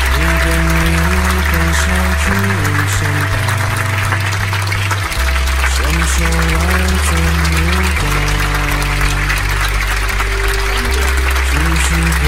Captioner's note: cheering Claps